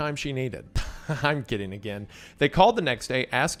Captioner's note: chuckles facetiously